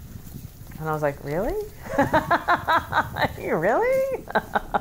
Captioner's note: laughs